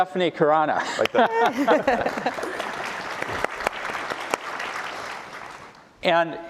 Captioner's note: applause